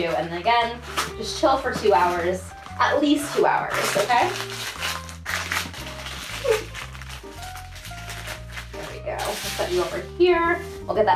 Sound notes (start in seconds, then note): 5.1 parchment paper crinkling